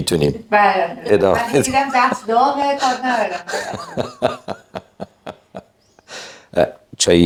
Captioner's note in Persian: خنده